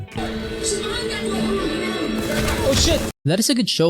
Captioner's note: audio from tv show in the background